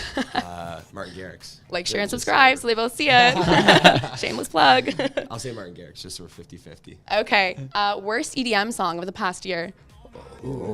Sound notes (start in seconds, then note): 3.1 laughter